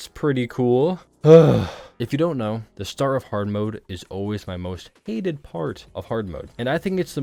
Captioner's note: sighs